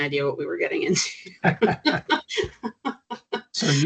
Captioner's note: chuckling